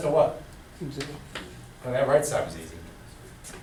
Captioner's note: voiceover